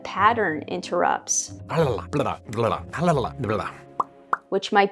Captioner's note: making some very strange noises